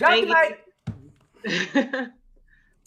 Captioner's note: laughing